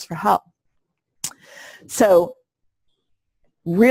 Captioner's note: pause